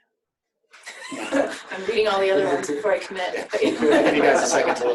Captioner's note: laughter